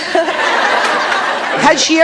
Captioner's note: audience laughs